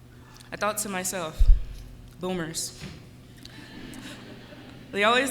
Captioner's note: laughter